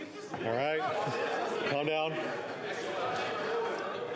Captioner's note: yelling